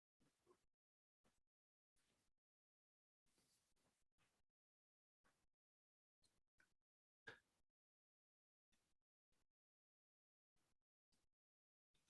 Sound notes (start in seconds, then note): 0.7 silence